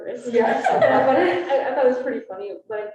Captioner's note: students laughing